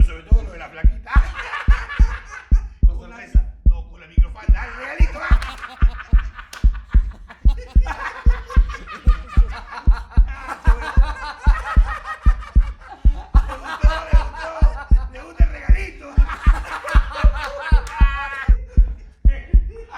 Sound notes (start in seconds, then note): 2.3 hysterical laughs; 5.4 faster heartbeat; 11.1 hysterically laughing